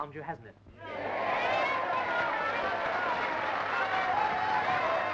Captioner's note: audience cheering and yelling; applause